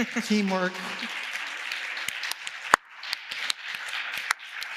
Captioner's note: audience applause